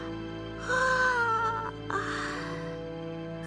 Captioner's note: yawn